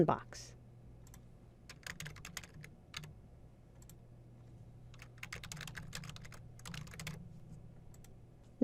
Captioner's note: typing